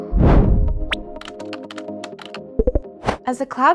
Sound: upbeat music; whooshing

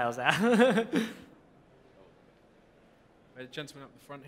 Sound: laugh

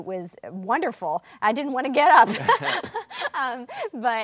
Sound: laughs

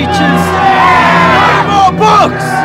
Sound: crowd

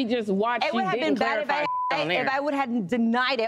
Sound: beep

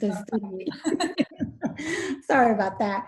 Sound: laughing

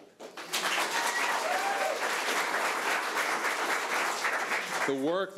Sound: audience applauding

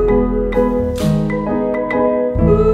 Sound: clap

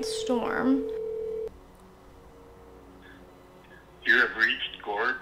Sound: phone ringing

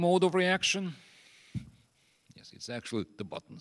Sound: thumb thumps on desk

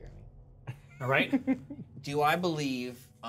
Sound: speaker chuckles

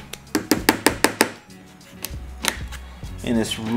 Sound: tapping

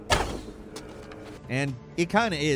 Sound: arrow firing

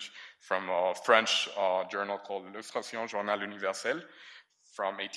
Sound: speaks in foreign language

